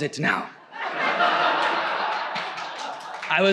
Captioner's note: audience laughs